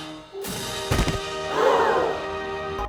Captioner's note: audience applause; thud; audience gasps